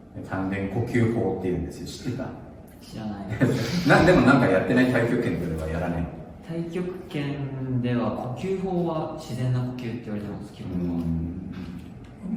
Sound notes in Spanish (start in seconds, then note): 3.3 risas